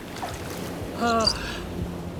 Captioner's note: gasps